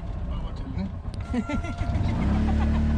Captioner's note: laughter